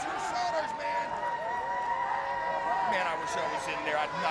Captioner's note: crowd cheering